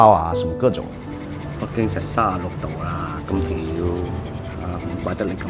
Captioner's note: speaks in Cantonese